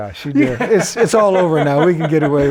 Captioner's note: laughing